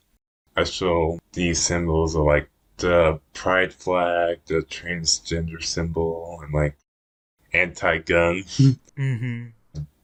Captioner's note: laughs